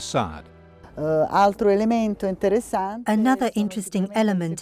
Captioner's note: speaking in foreign language